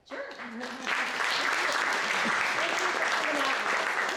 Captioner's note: audience applauds